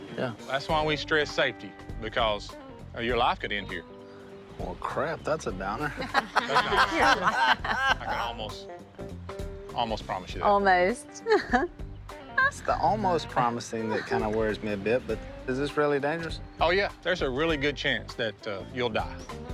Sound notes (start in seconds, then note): 5.8 group laughing; 11.3 laughing